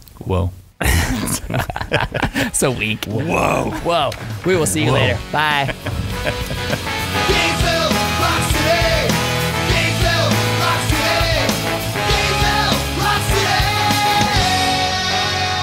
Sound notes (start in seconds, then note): 0.8 laughing